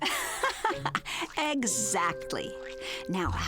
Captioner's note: laughing